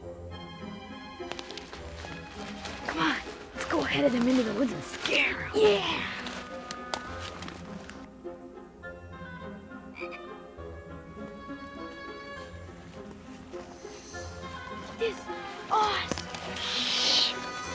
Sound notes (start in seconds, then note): 9.6 frog croaking